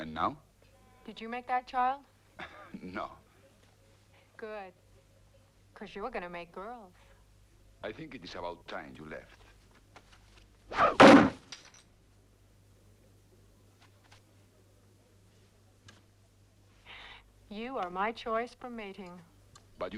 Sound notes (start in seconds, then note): 2.4 Pateray chuckles; 10.8 knife plunks